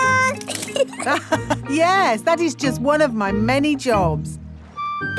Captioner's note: laughs